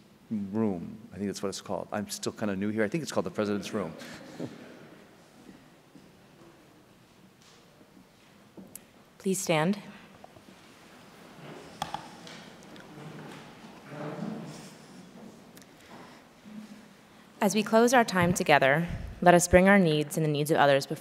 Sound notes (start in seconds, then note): 3.7 audience chuckling